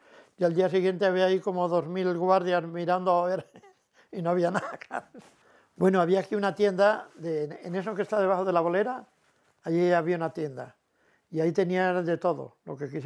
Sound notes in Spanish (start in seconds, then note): 4.2 ríe